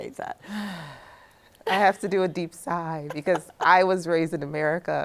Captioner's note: sighs